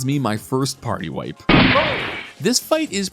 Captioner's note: gunshot